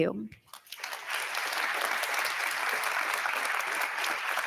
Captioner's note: audience applauding